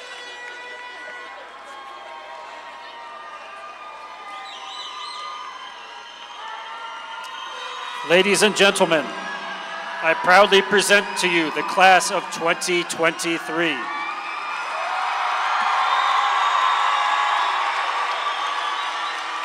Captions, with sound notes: Ladies and gentlemen, I proudly present to you the class of 2023. (all cheering)